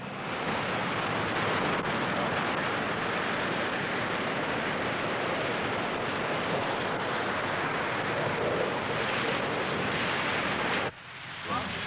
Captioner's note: sound of crashing waves